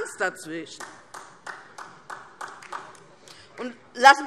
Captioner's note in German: Vereinzelter Beifall DIE LINKE